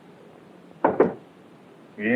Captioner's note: knock on the door